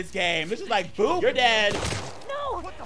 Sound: gun blasting

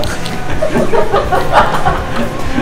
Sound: laughs

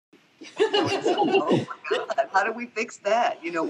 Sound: panelists laughing

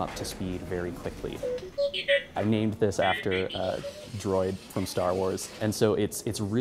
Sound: droid beeping

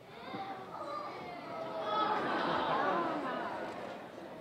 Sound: audience exclaiming

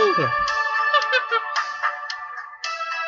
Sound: laughing

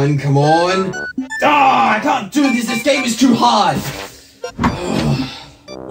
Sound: angry grunt; sigh

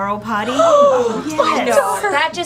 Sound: parents gasp in horror

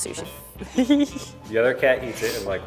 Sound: giggles

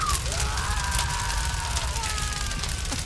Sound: more screams

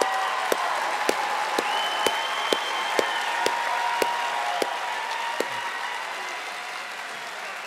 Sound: audience applauding and cheering

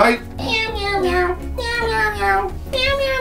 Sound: meowing

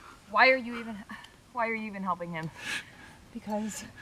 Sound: groans

